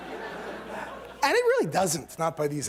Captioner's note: laughter